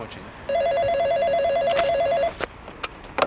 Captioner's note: phone rings